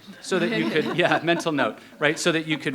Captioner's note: people laughing